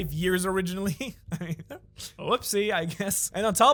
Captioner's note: chuckles